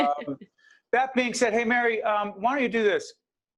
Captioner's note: laughing